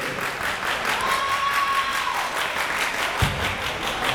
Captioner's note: crowd members cheering; clapping